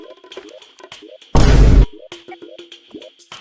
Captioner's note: boom sound effect